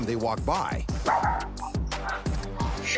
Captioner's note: dog barks